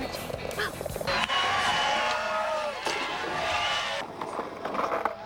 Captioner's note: crowd cheering